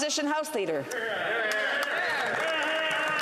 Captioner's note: some Applause